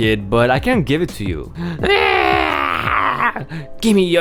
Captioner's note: starts screaming on top of his lungs